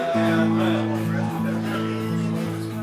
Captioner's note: bar patrons laughing